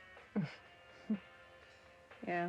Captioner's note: Celine chuckles